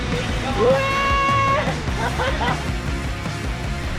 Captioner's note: laughing